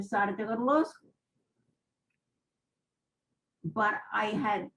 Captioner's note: pauses for 3 seconds